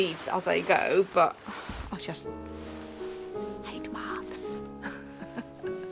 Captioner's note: laughing